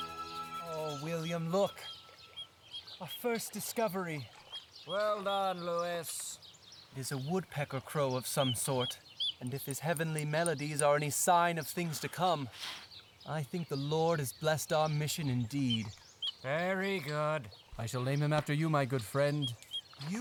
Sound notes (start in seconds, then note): 15.9 uninterested